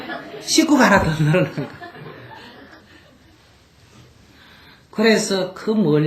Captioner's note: audience Laughter